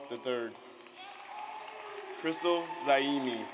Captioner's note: audience cheers